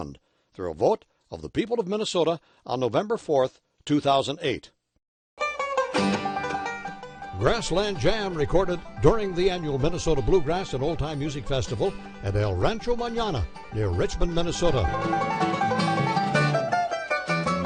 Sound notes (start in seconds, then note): 7.4 fast banjo; 8.8 voiceover